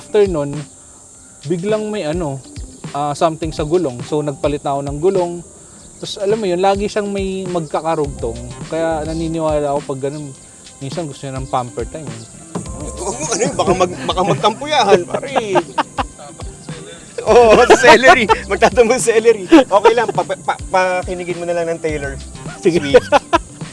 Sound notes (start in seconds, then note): 14.9 laughs